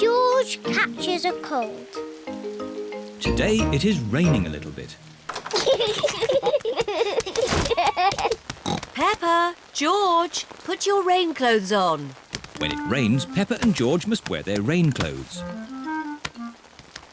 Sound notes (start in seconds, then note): 5.5 both giggling; 8.6 oinks